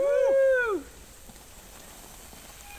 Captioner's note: cheering